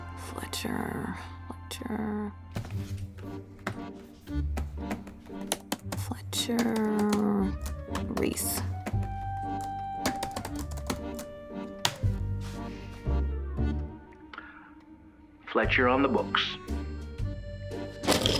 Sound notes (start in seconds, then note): 5.7 typing; 18.0 pencils rattle